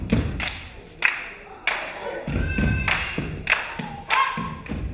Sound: crowd cheering

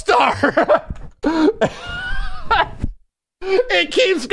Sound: dies from laugh

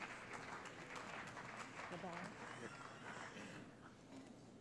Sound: applause

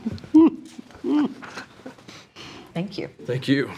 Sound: trustees chuckling

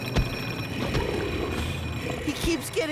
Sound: growls

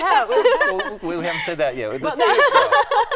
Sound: laughter

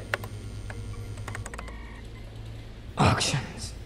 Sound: typing, cell phone vibrates

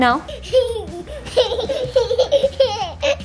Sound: laughing

